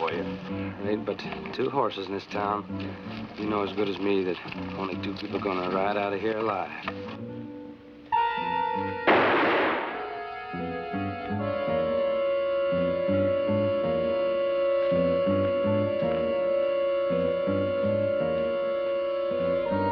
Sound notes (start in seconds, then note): 9.0 gunshot bangs; 11.2 tense music